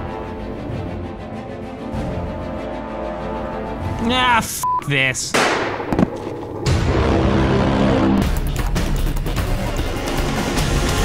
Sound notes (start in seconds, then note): 5.3 gunshot